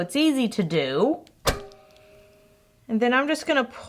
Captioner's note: clicking sound